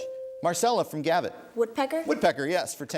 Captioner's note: ding